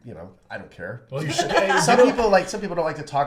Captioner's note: laughs